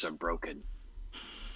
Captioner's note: laughs